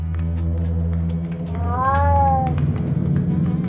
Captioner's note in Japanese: 猫の鳴き声